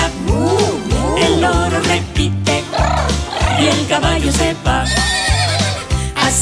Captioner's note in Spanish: Relincho